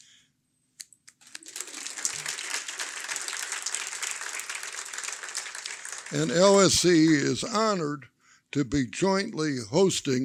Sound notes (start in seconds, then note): 5.1 applause